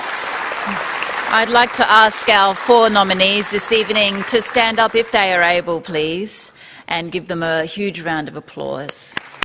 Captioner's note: applause